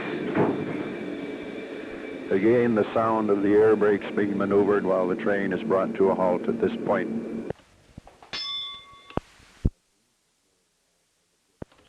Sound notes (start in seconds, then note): 8.3 bell Sound